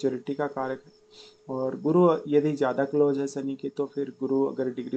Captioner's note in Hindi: नाक से की जाने वाली आवाज़